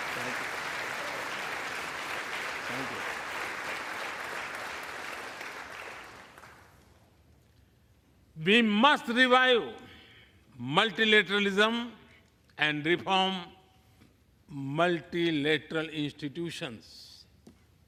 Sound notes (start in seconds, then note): 3.2 applause